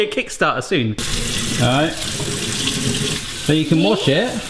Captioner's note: water splatting